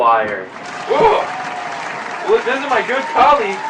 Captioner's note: applause